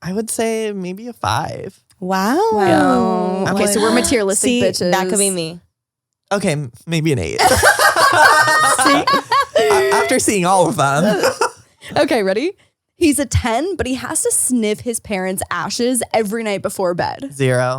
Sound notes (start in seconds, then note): 7.4 all laugh